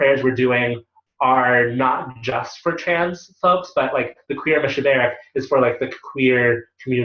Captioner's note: Hebrew